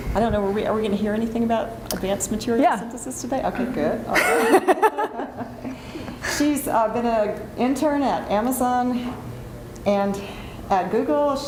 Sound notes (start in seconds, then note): 4.2 laughs